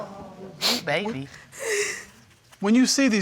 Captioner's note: sobbing continues